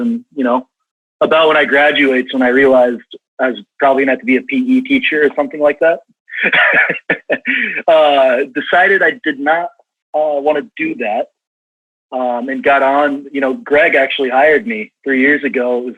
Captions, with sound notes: And you know, about when I graduate is when I realized I was probably gonna have to be a P.E. teacher or something like that, (laughs) decided I did not want to do that, and got on, you know, Greg actually hired me three years ago,